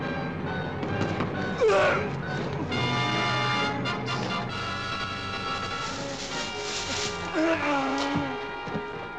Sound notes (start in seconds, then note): 1.3 officer shrieking; 6.9 moaning